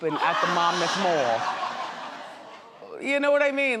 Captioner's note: audience laughs